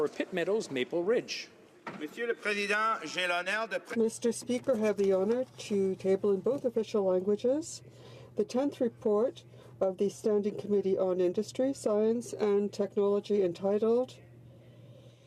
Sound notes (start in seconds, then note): 7.5 speaking in French